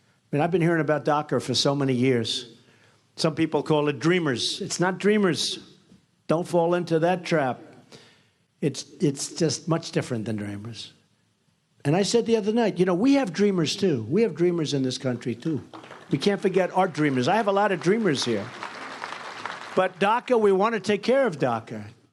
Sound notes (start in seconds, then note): 18.9 soft applause